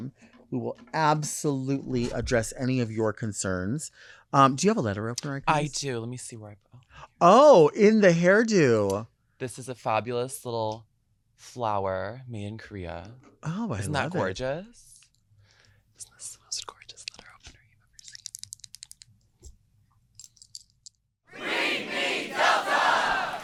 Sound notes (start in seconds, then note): 18.0 nails clacking; 23.2 audience clapping